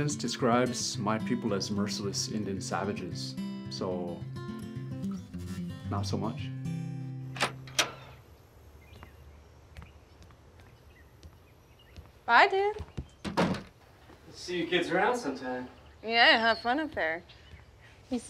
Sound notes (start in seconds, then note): 7.3 door creaking; 7.6 birds chirping